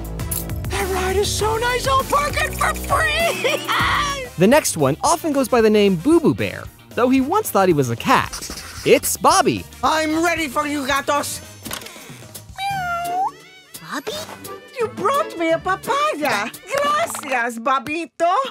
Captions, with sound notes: That ride is so nice I'll park it for free! The next one often goes by the name Boo Boo Bear though he once thought he was a cat. It's Bobby. I'm ready for you gatos. [meowing] Bobby? You brought me a papaya. Gracious, Bobbito.